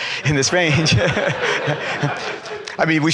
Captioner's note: laughter